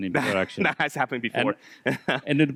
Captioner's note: laughs